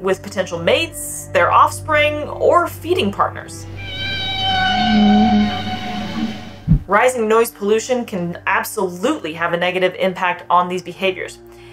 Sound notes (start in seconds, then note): 3.6 whale vocalizations; 3.7 background music